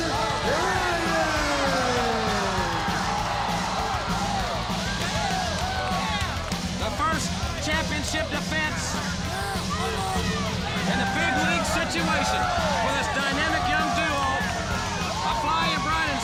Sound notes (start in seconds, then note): 3.8 crowd cheering